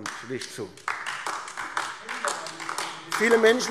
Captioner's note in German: Beifall AfD